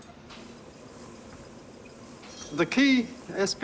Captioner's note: quiet whirring